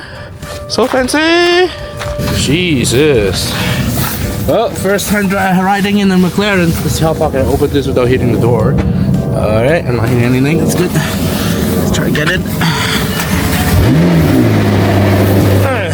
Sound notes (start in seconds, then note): 12.7 super car noises